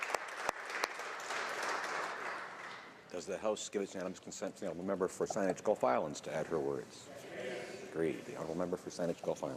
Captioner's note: applause